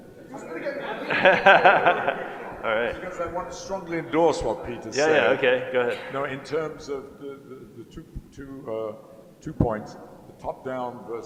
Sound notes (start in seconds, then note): 1.5 laughs